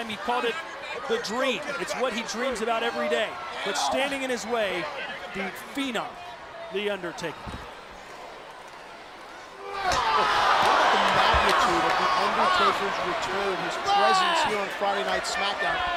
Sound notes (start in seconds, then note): 7.7 crowd cheering